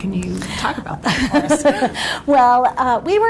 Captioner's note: laughs